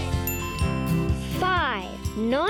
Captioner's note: bell dinging